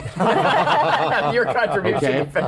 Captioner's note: laughter